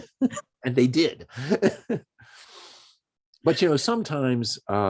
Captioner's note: laughs